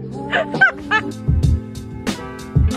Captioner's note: laughing; upbeat music